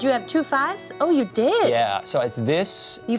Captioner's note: none